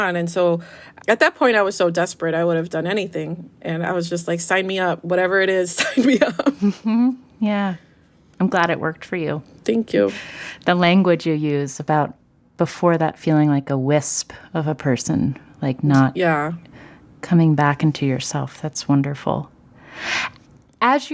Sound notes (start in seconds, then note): 5.7 laughter